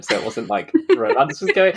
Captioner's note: laughing; laughs